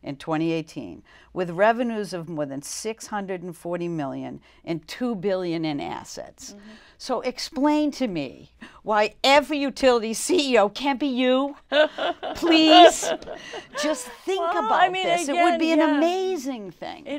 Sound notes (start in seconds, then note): 11.7 laughing